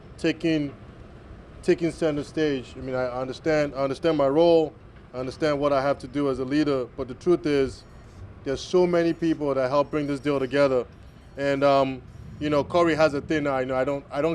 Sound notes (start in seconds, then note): none